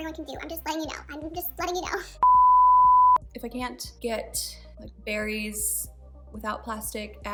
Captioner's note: beep